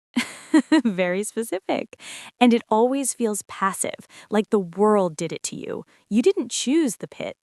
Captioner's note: laughs